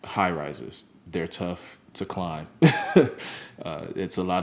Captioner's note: laughs